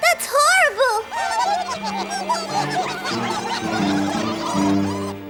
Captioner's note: angry squeaking